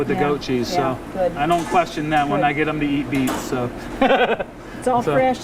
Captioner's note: laughs